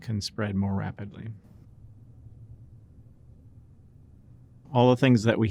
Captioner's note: silence